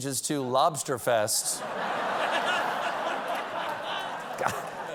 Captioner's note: laughter